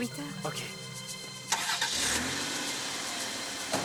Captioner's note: engine starts